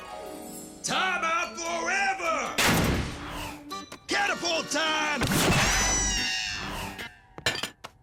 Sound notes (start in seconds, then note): 2.6 door slams